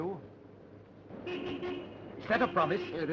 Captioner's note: horn honking